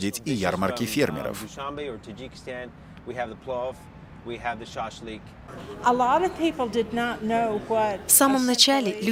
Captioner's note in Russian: английская речь